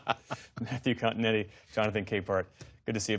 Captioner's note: laughter